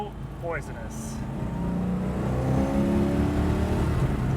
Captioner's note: engine revs